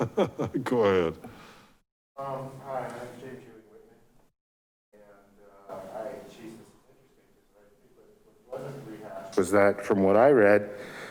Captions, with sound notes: (laughs) go ahead. (man murmuring softly) - Was that from what I read,